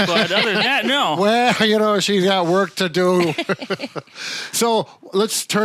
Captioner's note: chuckles